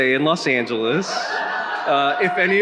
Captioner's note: attendee cheering